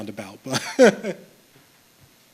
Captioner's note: chuckles